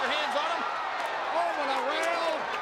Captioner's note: audience cheers